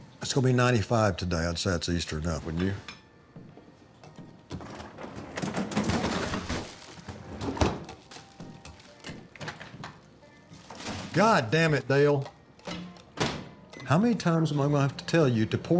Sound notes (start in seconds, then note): 6.7 drawer whirs